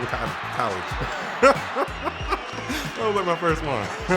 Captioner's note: laughing